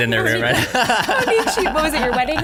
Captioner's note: laughter